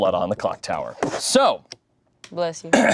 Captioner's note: clears throat